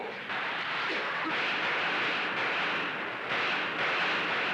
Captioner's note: gunshots